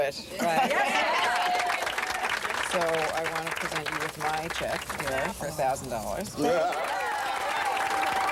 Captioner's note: cheering